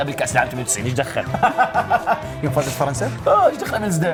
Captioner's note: laughs